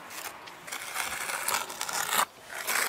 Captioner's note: rough scraping noises